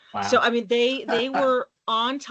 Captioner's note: chuckling